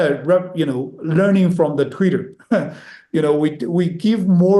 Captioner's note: chuckles